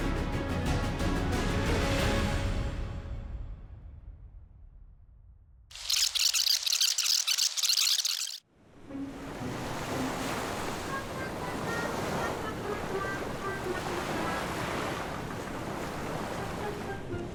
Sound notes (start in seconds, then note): 1.9 dramatic music concludes; 5.8 film reel squeaking; 8.9 playful music